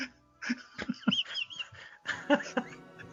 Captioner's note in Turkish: kahkaha